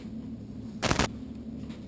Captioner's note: static